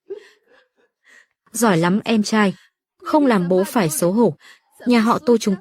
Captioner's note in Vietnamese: tiếng cười